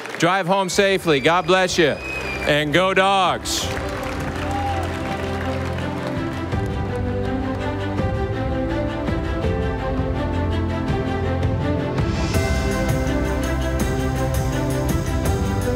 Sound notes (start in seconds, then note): 3.9 audience applauding; 3.9 stately music